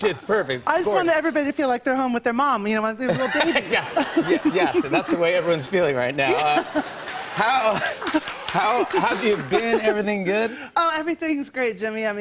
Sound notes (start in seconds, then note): 6.2 laughter